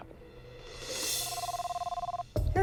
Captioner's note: phone rings